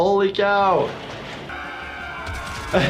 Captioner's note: Fliqpy clones yelling; laughing